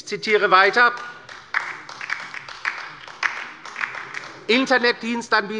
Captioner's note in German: Beifall bei der LINKEN